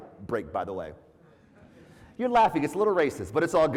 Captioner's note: laugh